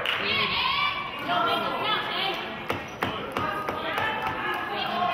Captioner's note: players hollering